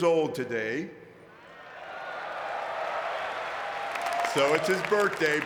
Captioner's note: audience cheering and clapping